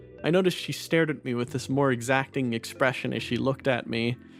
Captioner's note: none